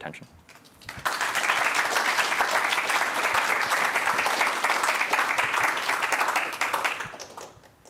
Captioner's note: audience applauds